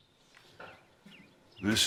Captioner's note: birds chirping